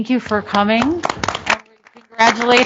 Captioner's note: applause